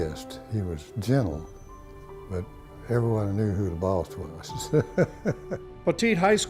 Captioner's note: laughs